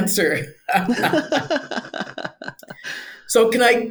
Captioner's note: both laughing